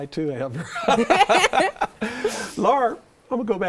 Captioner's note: all chuckling